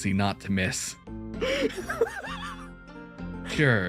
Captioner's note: laughs